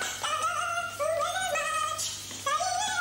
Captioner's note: humming